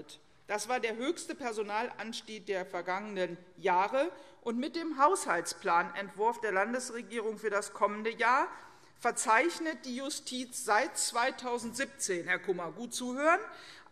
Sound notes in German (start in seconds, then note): none